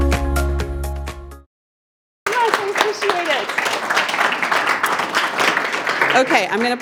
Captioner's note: applause